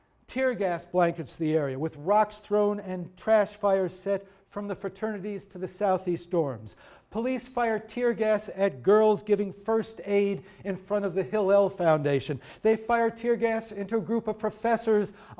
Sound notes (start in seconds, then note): none